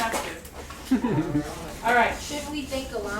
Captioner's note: laughter